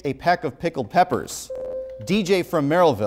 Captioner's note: buzzer